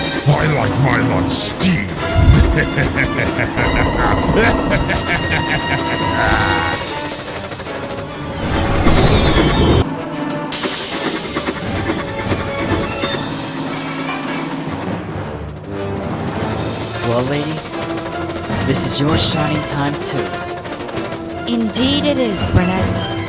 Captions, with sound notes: I like my lunch STEAMED!!! (SINISTER CACKLE) (X-WING PASSBY) (STEAM HISSING) Well Lady, this is your Shining Time too. Indeed it is, Burnett.